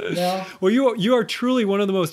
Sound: chuckle

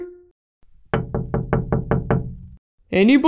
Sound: knock! Knock! Knock!

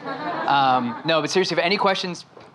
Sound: audience laughing

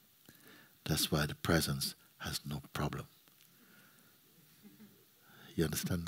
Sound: soft laughter

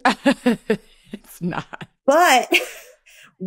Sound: chuckles

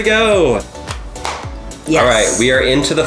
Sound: snapping sound

